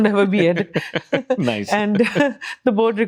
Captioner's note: laugh